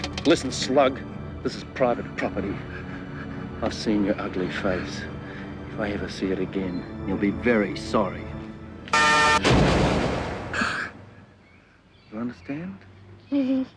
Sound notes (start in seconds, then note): 9.0 laser blasting; 10.6 Petey gasps